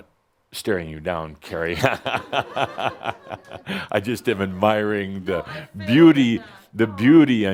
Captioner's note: Adamus chuckles and some laughter